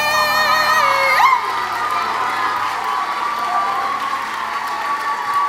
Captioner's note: audience clapping and cheering